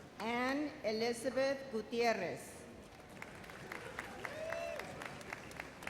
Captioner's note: audience applauds